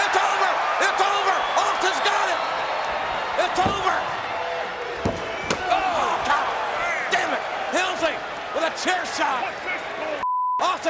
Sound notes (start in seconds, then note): 5.0 chair smacks